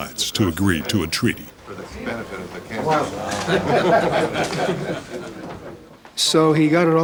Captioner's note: chatting, laughing